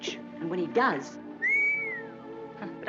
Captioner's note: whistles